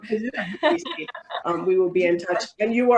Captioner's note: people laugh